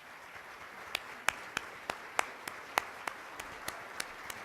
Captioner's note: applause